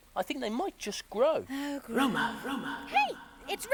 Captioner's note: echoing